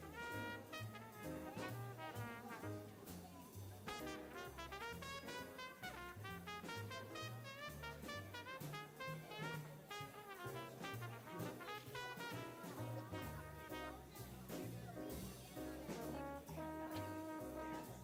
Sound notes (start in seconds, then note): 4.0 people chattering; 4.0 upbeat jazz music continues